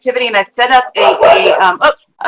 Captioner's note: dog barking